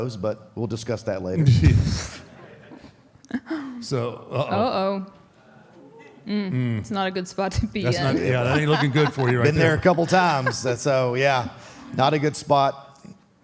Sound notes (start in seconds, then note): 2.0 audience laughs; 7.8 Michelle laughs